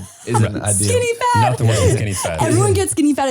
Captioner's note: laughing